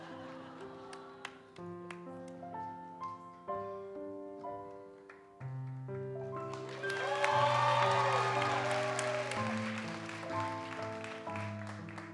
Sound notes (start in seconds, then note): 6.4 audience cheers and applauds